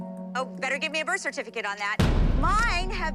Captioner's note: boom